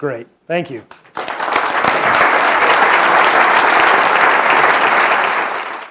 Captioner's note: applause